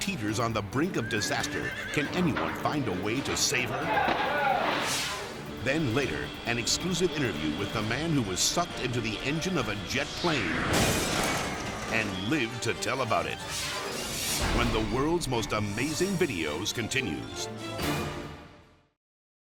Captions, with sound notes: on the brink of disaster. (horse neighing) Can anyone find a way to save her? (water splashes) (air whooshes) Then later, an exclusive interview with the man who was sucked into the engine of a jet plane (explosion booms) and lived to tell about it, (air whooshes) when the "World's Most Amazing Videos" continues.